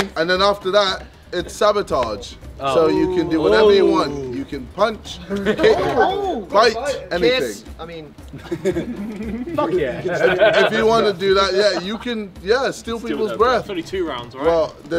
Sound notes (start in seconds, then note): 8.2 laughing